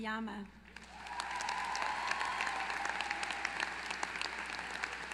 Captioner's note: applause